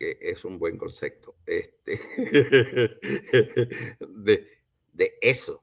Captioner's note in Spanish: Risas